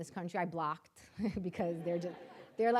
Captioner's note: audience laughing